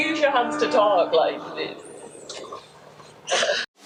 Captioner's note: laughing